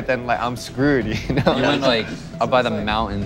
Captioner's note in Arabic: ضحك